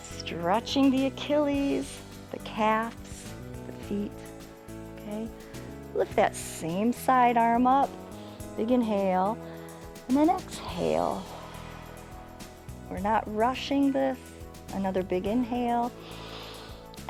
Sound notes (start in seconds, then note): 11.2 exhales; 16.0 inhales